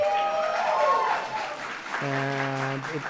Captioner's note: applause